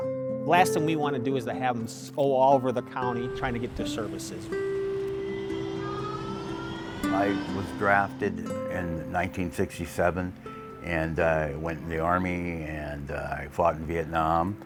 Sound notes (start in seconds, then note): 3.5 train whirring